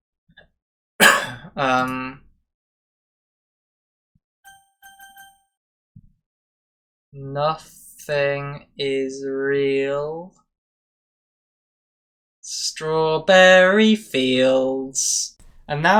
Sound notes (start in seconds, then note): 1.0 posh Cough